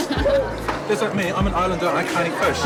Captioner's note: group laughter